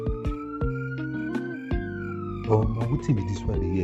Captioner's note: sirens